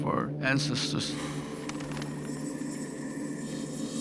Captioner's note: wings fluttering